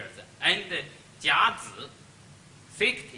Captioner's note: speaks Chinese